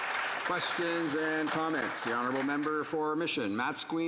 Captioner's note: applause